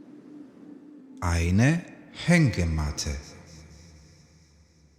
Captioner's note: german